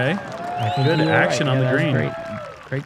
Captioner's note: crowd cheering